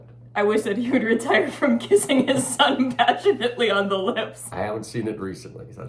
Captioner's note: laughing